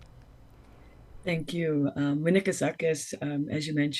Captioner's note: speaks in foreign language